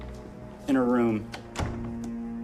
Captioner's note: door closes